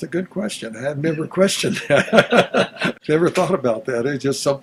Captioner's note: both laughs